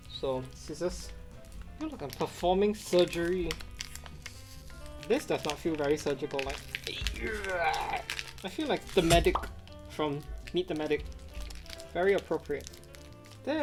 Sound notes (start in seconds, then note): 6.9 straining; 7.0 wrapper crinkling; 9.0 graphic pops